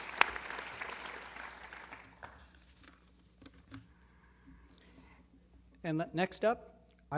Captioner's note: applause